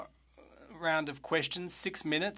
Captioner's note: speaking French